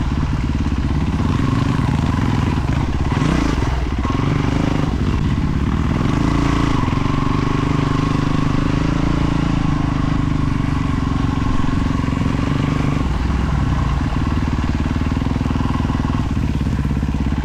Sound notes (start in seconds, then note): 3.1 engine revving